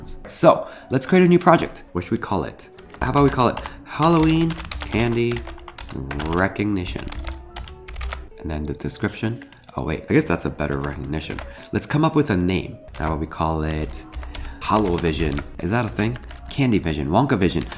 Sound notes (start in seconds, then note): 6.7 keys tap